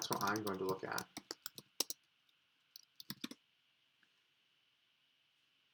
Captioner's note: keyboard clicking